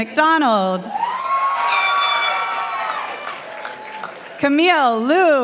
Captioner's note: participants applauding